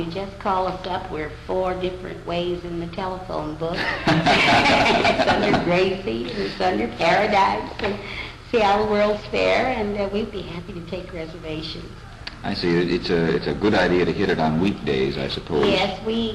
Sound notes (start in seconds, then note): 3.7 laughter